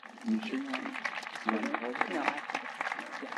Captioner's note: speaking faintly